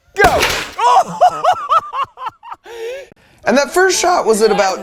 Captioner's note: laughing